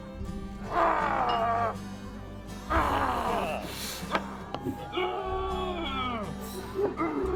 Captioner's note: Pinkerton Agent McGuire shrieking; Pinkerton Agent McGuire groaning softly